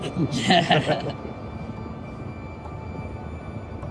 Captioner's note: chuckling